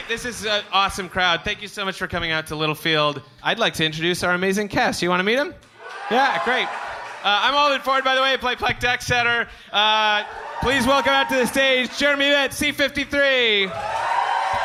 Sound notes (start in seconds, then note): 5.7 cheering, applause; 9.9 cheering, applause follow every introduction